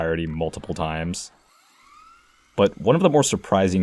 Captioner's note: VCR sounds